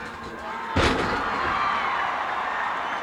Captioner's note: body thuds; crowd cheering